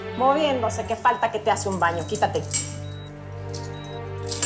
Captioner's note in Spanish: Sonidos de las cadenas